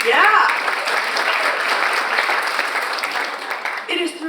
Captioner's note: audience applauds